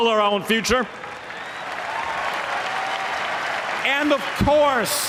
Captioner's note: applause